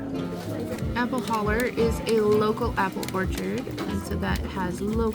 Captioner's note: café chatter and background noise